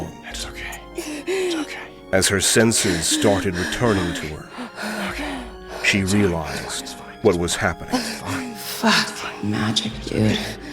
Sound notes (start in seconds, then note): 0.9 Ilani making pained sounds through gritted teeth; 6.0 reciting; 9.5 inner thoughts, exasperated